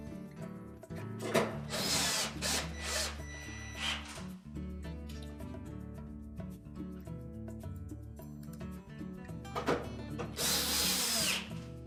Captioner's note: tool noise